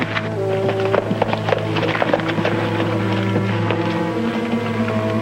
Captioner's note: horse trotting; pensive orchestral music